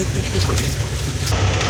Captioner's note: laughing